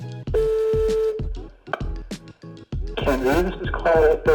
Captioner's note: dial tone